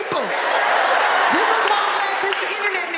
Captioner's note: audience laughing